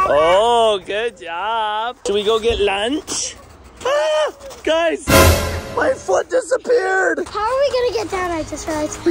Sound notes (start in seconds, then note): 3.8 shrieks